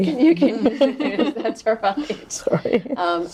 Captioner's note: laughing